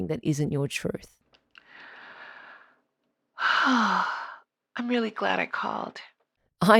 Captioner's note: deep sigh